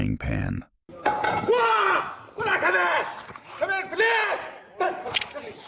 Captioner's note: yelling